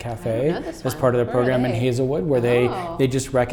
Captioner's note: voice muffled